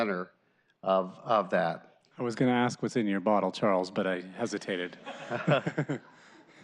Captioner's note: laughter